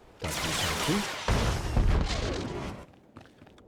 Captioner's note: gun firing